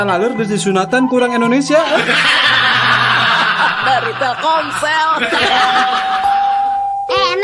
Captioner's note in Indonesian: tertawa